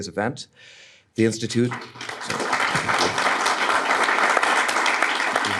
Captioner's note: audience clapping